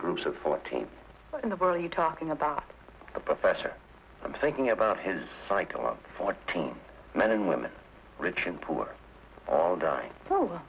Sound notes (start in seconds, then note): none